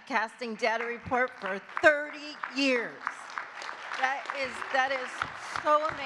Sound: audience clapping

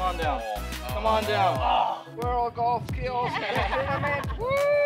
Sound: groans; laughs

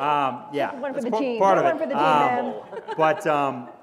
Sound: laugh

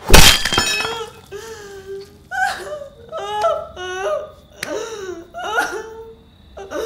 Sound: cries helplessly

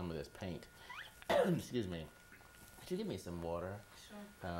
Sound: clears throat; cough

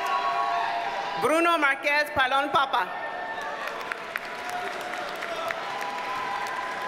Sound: audience cheers and applauds

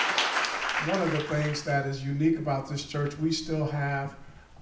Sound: applause

